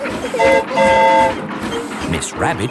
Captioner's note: train whistle toots